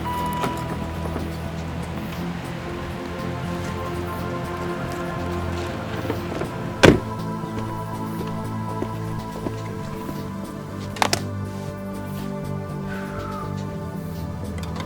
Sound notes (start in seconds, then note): 0.2 car dinging; 5.9 door slamming